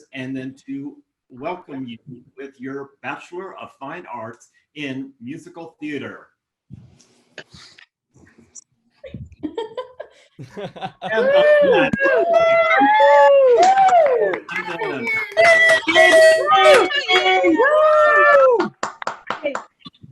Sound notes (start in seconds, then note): 10.9 attendees cheering